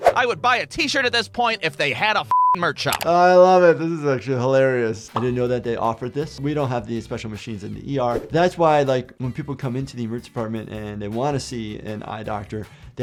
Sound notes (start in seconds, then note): 0.0 screen whooshing; 2.3 beep; 3.1 button clicking; 5.6 screen popping; 8.1 screen whooshing